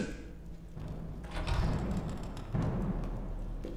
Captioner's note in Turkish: Kapı açılma sesi